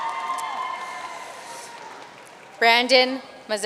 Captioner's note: audience cheering and applauding